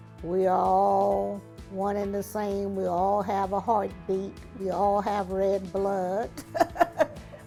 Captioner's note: laughing